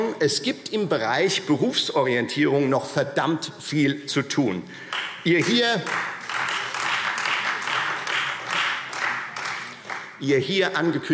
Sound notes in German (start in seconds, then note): 4.8 Beifall Freie Demokraten